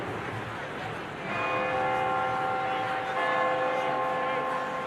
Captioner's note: bell tolling